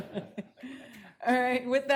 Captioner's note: laughing